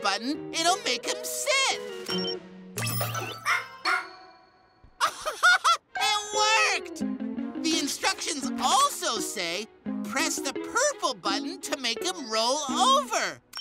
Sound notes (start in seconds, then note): 3.4 robotic barking; 5.0 laughs